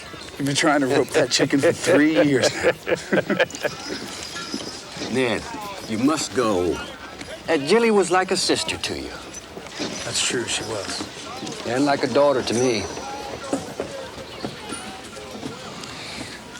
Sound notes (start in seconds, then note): 0.7 Anthony chuckles; 1.8 both chuckle